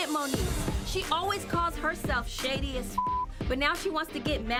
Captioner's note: beep